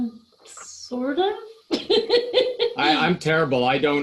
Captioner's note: laughing